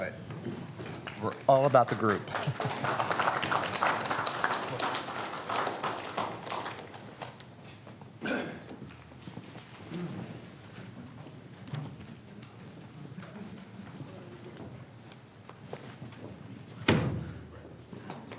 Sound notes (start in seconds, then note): 14.6 applause